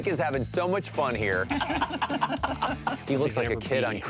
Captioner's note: laughing